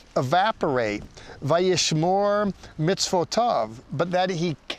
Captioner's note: speaking in Hebrew